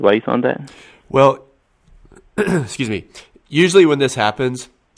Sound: clears throat

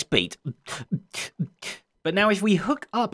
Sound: beatboxing

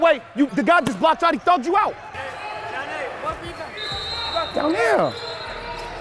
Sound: overlapping chattering

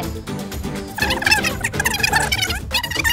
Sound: muttering

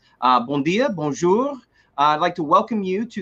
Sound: french

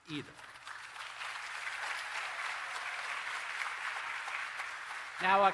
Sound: applause

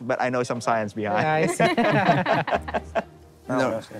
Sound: all chuckling

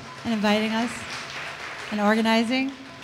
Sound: audience applause

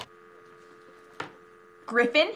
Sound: dial tone humming

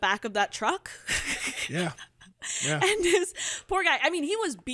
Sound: laughs

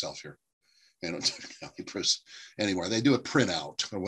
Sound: laughter

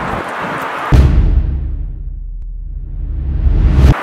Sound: slam

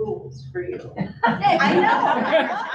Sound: audience laughs

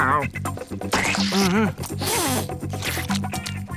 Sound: sniffing

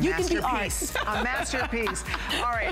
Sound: laughter

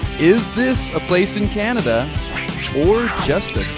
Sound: upbeat music; voiceover

